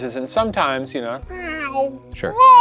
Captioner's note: imitating cat meowing